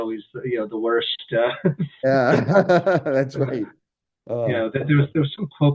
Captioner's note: laughs